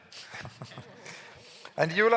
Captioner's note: giggles